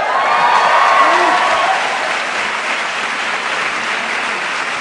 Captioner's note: cheering